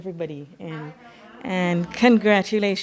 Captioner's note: overlapping chatter